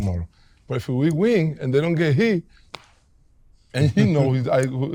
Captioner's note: hand slaps